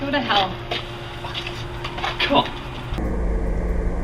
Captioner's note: Reese scoffs